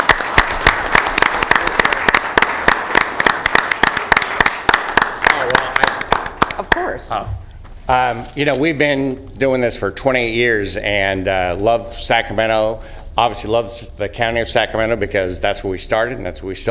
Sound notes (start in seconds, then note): 3.8 applause